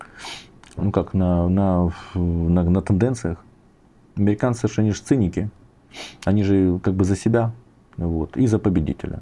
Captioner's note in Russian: фыркает; фыркает